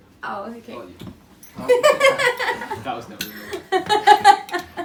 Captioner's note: laughter